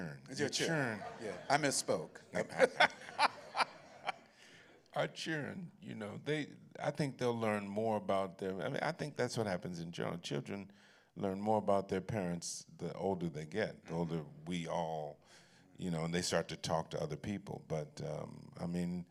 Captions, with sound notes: Your Children. -Yes, I misspoke. [laughs] -Our Children, I think they'll learn more about their-- I think that's what happens in general. Children learn more about their parents the older they get, the older we all and they start to talk to other people.